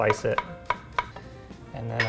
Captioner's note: knife clicks